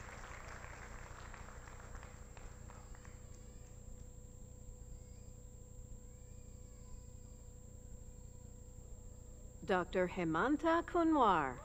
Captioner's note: applause